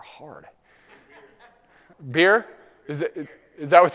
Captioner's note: laugh